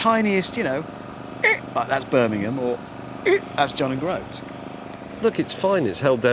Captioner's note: squeak